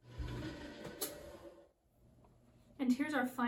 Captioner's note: machine hums